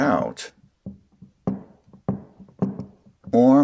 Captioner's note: shaft pulling sounds